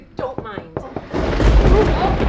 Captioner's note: knocks at the door; thunder rumbles